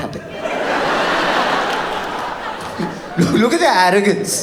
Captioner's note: audience laughs